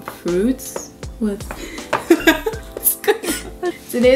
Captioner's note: both laugh